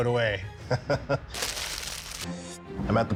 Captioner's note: chuckles